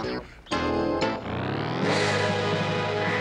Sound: bird cawing

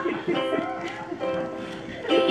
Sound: laughter

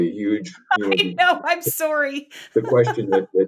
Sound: laughs

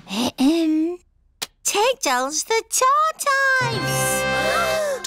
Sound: clears throat; all gasp

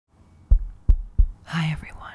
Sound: tapping

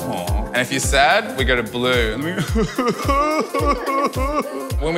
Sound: crying noises

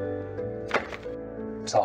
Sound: money hit table

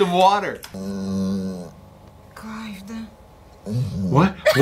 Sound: dog groaning

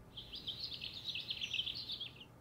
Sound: birds chirping

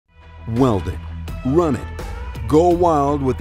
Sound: voiceover

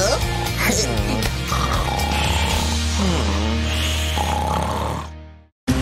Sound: snoring

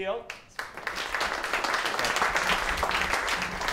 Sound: applause

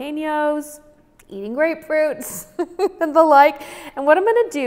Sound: giggles

